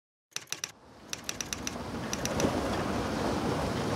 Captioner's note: typewriter typing